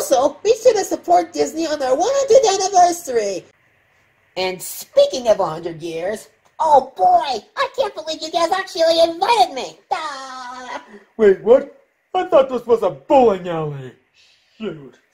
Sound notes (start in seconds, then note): 10.1 does his signature laugh